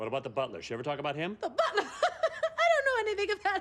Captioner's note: laughing